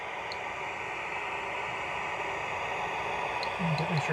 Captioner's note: static buzzing